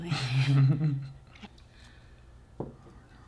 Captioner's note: laughing